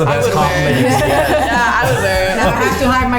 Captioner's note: everyone laughs